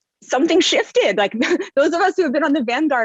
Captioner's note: chuckles